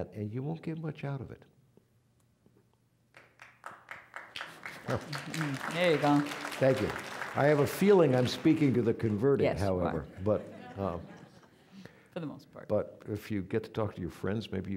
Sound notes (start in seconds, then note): 3.1 applause; 10.0 audience laughing